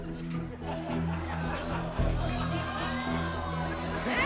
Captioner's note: audience laughs; everyone laughs